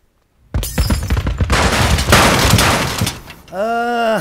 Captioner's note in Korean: 갑자기 부서지는 소리